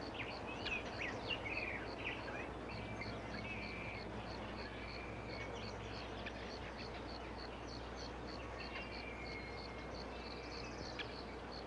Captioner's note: birds Chirping